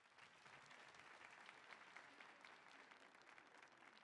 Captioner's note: audience applauding